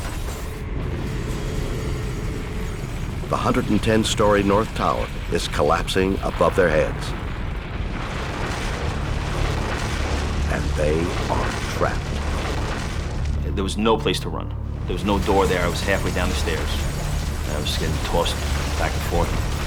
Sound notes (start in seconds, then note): 1.7 explosion rumbling